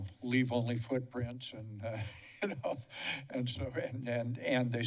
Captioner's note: laughter